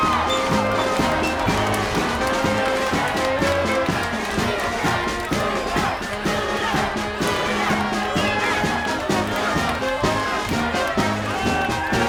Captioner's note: applause